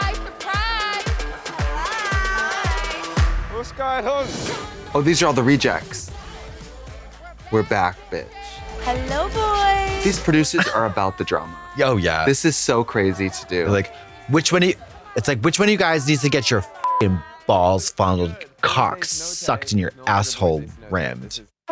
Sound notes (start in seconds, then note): 16.8 beep